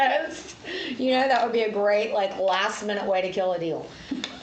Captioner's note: laughs